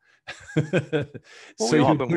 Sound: laughs

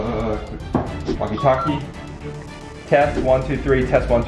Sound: walkie-talkie beeps

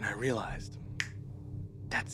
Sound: fingers snap

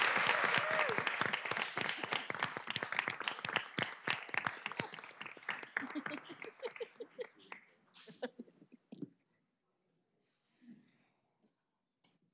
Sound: applause

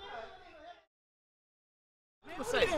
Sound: speaking away from mic

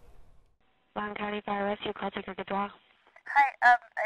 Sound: over phone

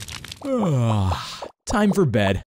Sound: yawns

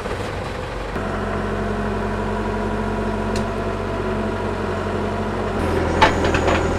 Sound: engine starting

